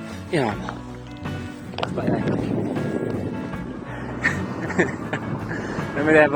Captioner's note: laughter